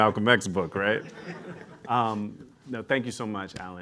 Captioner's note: laughter